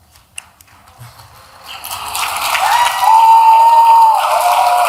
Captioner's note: applause